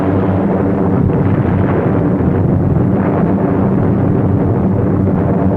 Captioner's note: bombs exploding